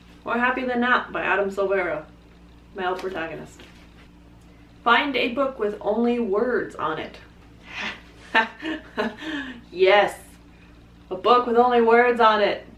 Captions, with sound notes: More Happy Than Not by Adam Silvera. Male protagonist. Find a book with only words on it. (laughs) Yes! A book with only words on it!